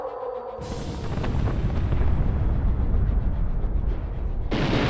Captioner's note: bombs exploding